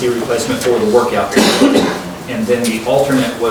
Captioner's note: coughing drowns out speech